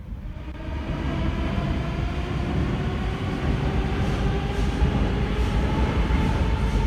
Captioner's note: train leaves to the next station